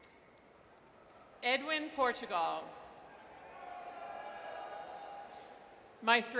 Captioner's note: audience cheers